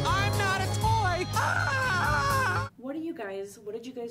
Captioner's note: screams